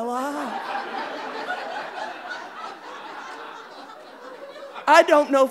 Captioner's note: audience laughing